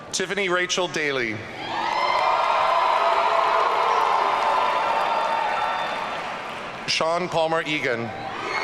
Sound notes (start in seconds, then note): 1.6 audience cheering